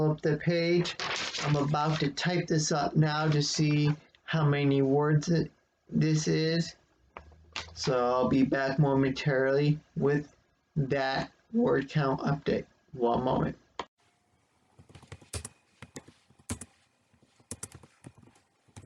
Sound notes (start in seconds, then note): 0.7 rustling of paper; 15.1 click